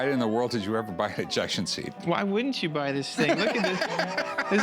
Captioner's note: laugh